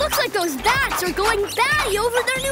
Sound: squeaking

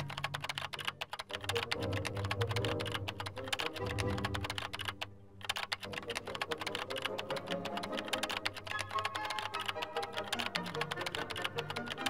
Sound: keyboard clicking continues

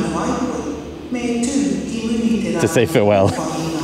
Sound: overhead announcement

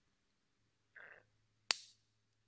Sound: magnets Connect

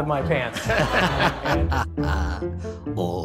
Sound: crowd and Announcer laughing

